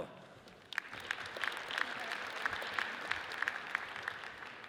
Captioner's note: audience applauds